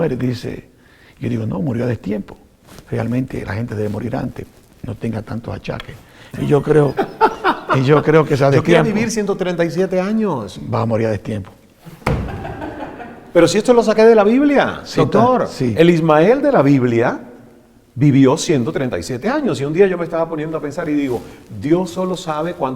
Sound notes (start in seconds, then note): 6.3 haha laughs; 12.0 hahaha laugh